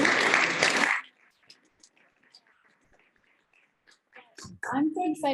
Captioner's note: applause